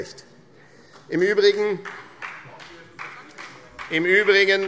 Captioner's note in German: Beifall